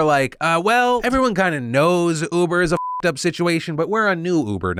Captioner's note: beeps